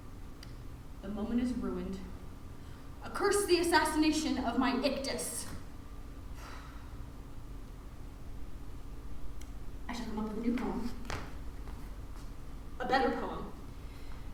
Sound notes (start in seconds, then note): 6.4 sigh